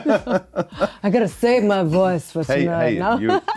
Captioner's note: chuckles; chuckles